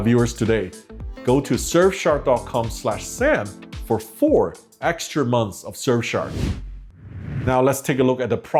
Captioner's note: whooshing